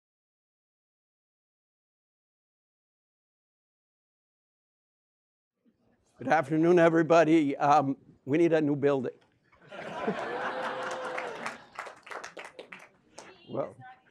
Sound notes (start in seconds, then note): 9.6 laughs at how crowded it is in the room